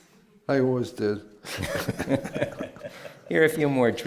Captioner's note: laughs